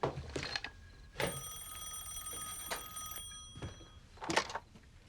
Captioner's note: ring